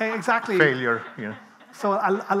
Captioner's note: people laughing